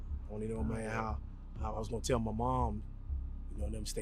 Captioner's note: both mumbling